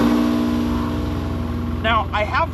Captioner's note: compressor whirring